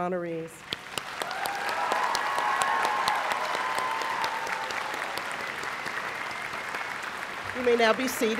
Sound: applause

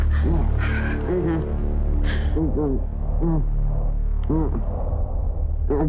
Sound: Jenelle breathing heavily; ominous music; man moaning

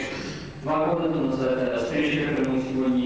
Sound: non-english speech

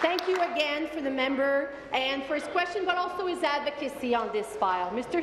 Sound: applause

